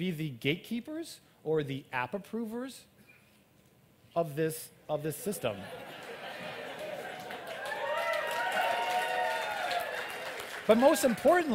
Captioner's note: applaud